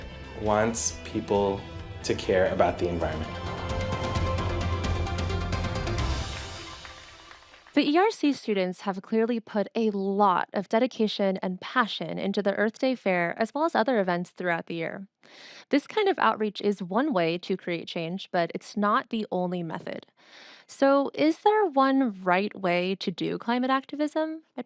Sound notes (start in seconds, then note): 4.0 audience applauding; 4.0 bright music